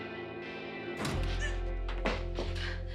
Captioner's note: gasps